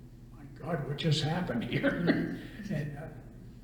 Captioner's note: laughs